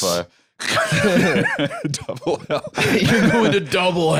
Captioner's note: laughing